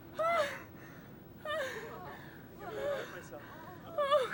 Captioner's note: Roberta shrieks